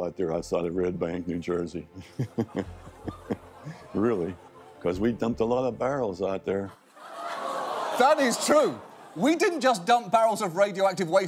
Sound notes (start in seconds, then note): 2.0 chuckles; 7.0 audience gasps